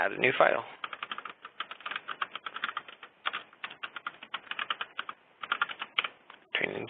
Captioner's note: keyboard clicking